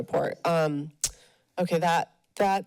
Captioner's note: smacks lips